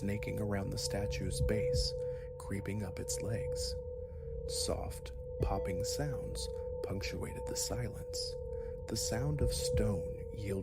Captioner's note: popping